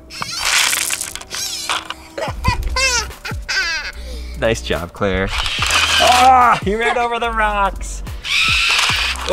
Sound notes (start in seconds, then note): 0.0 robot buzzes; 0.0 rocks rattle; 1.3 laughing; 5.2 robot buzzing; 6.0 laughs; 8.2 robot buzzing